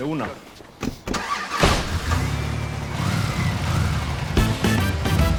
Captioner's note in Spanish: Ruido del vehículo; Portazo